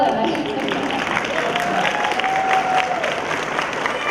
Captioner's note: cheering